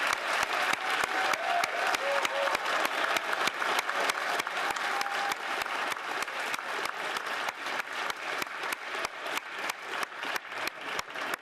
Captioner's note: applause